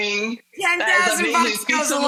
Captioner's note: murmurs